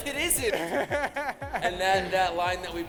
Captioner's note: laughs